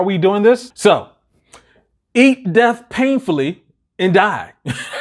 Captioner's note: chuckles